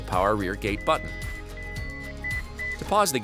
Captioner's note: electronic beeps